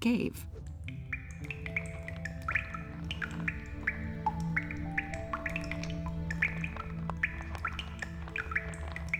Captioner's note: dripping